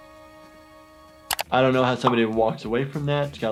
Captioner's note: none